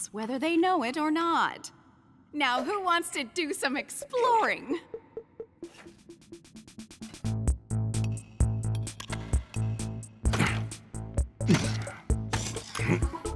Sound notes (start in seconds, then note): 7.1 upbeat music; 8.0 mining sounds; 11.4 grunting